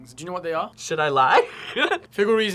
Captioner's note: laughs